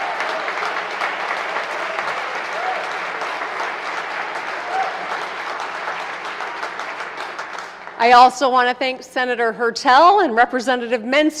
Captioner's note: applause